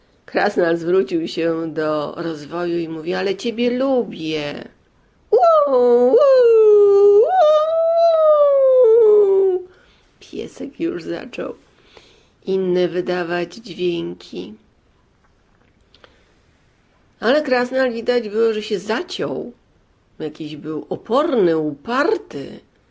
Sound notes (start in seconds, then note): 5.4 dog whines